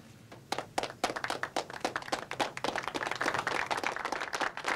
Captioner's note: applauds